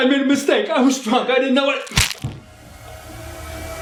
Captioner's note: crunch